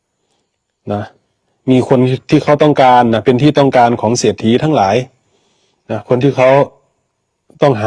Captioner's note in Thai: เสียงสูดหายใจ